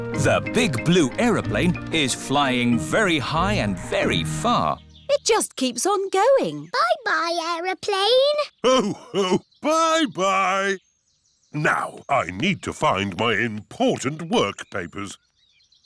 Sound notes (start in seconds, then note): 8.6 laughs